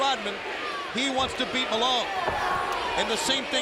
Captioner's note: audience chanting